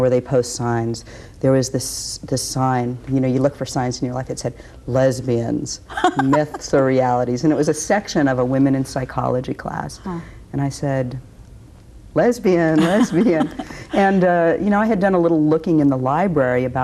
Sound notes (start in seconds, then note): 5.9 laughs